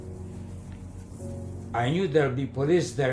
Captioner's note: train driving